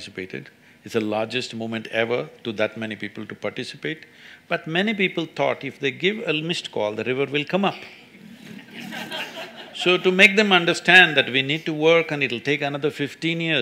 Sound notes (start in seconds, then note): 8.2 laughter